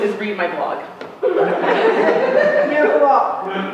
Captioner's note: laughter